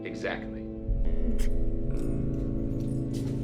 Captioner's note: Joe coughs